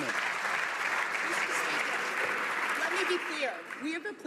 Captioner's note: some Applause